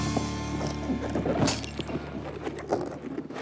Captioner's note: thuds